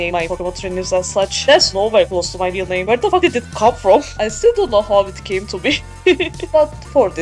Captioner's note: laughing